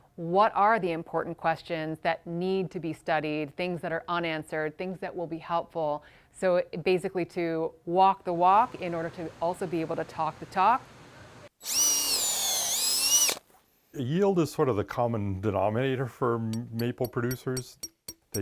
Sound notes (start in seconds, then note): 11.6 drill squeals; 16.5 glass tapping